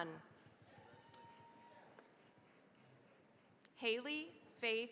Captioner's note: applause